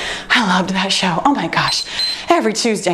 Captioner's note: timer beeps